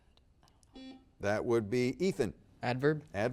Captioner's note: buzzer beeps